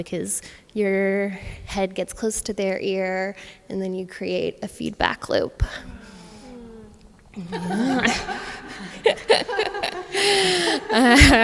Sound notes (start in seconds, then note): 8.9 laughs